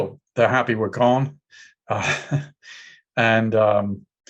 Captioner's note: chuckles